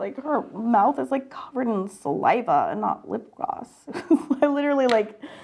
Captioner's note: laughs